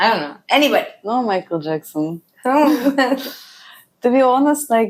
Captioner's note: laughs